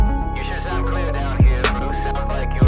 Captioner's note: voice On Walkie-Talkie